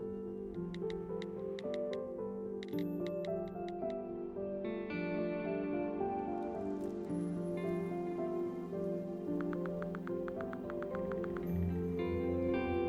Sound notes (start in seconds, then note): 0.7 phone clacking; 4.8 whimsical music continues; 9.4 phone clacking